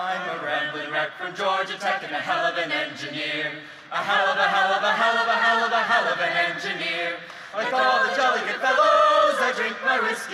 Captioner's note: applause